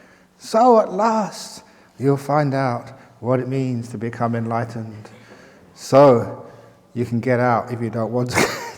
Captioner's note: chuckle